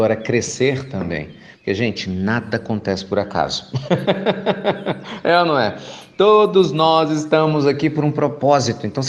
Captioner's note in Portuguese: Risos